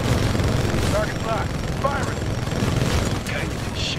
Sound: radio

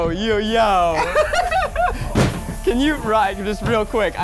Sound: laughing

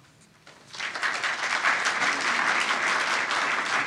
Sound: applause

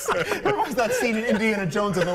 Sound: laughter

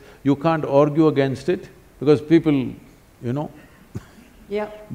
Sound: laughs

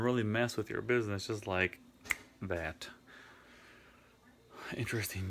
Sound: snaps

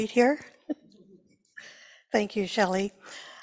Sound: laughs

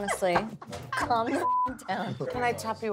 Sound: beep

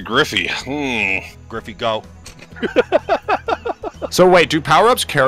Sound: laughter

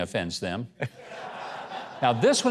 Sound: audience laughs

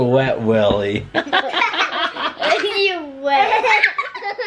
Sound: laughs

